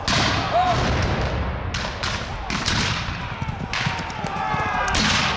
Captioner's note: gunshot firing continues